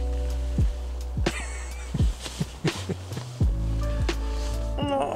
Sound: laughs

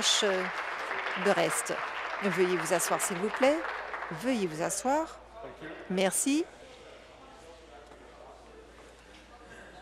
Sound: applause

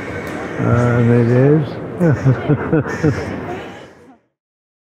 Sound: laughs

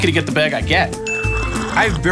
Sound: ding

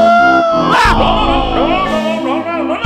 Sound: yelps

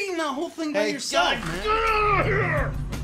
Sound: growls

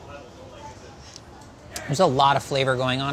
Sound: background chattering

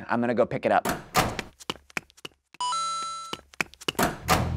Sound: arcade token bell

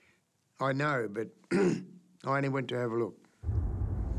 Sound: clears throat

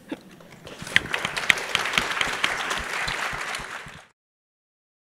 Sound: applause

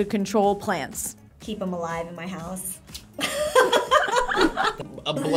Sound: laughs

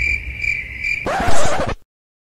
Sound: smack

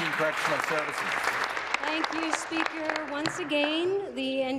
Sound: applause

